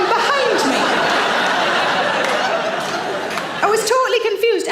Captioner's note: audience laughs